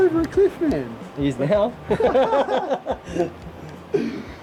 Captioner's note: laughter